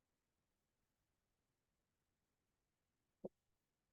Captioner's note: silence